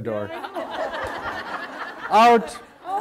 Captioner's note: audience laugher